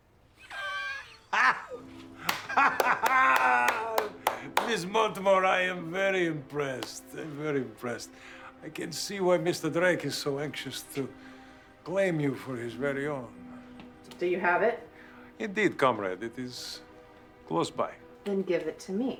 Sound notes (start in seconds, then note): 0.3 laughing; 2.2 clapping